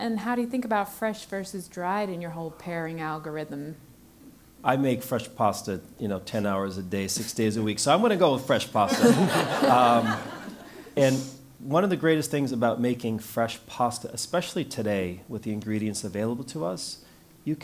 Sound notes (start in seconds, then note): 8.9 laugh